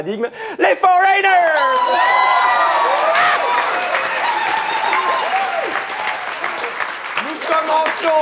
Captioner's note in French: aplaudissement